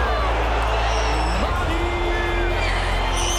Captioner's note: cheers and applause